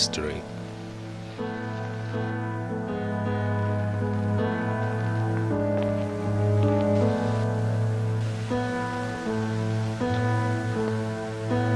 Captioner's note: music and tape recorder static fades out